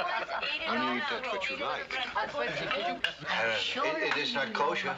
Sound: people laughing

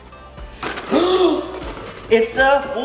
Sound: gasps

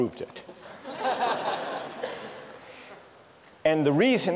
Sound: laughter

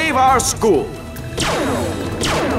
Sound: laser shoots

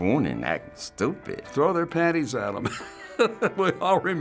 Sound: laughs

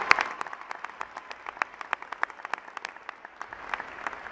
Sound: applause

